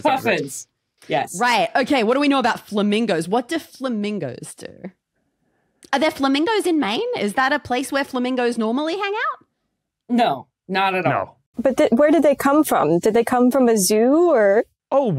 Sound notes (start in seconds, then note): none